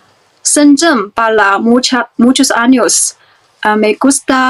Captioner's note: spanish